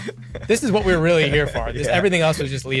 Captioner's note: laughs